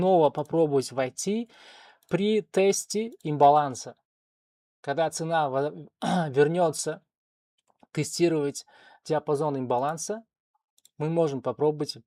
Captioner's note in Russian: откашливается